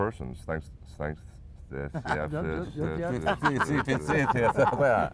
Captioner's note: laughs